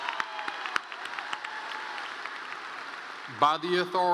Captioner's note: applause